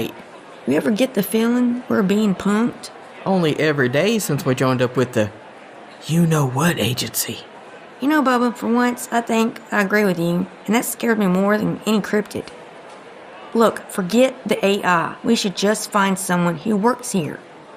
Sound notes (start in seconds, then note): 5.8 whispering